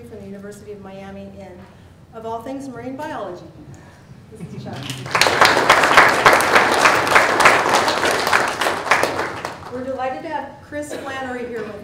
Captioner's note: applause